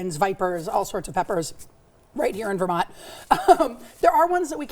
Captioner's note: laughs